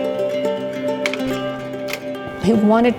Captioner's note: projector clicks